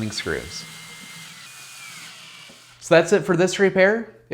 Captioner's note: drill whirring